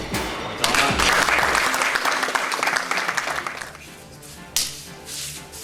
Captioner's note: audience applauding; soft rock music